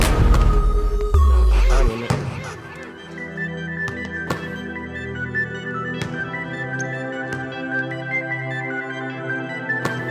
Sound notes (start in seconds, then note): 0.1 ball bouncing; 0.1 ball thudding; 2.2 ball bouncing; 4.3 ball thudding; 6.0 ball bouncing